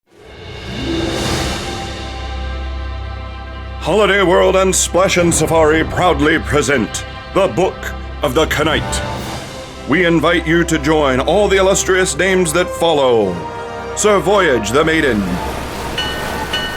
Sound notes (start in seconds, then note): 4.2 voiceover; 13.9 sound FX: Crashing waves, ship bell ringing